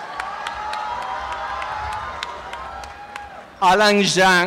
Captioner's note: applause and cheering